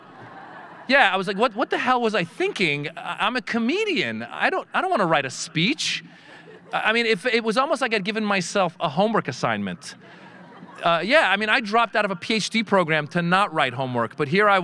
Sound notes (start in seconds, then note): 0.0 audience laughing; 9.8 audience laughing